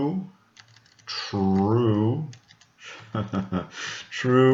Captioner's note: chucklng